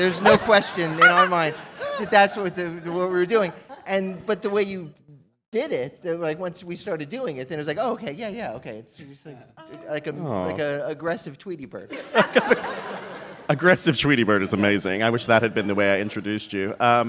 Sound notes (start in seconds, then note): 12.0 laughing